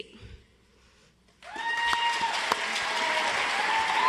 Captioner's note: audience applauds